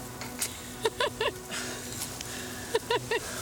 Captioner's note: laughing